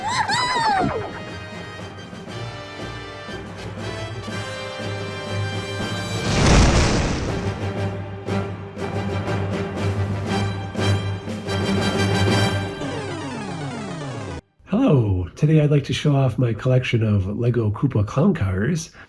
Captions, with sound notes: [FWOOSH!] Hello. Today, I'd like to show off my collection of Lego Koopa Clown Cars.